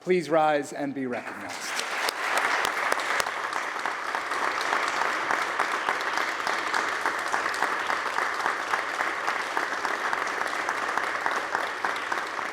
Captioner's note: applause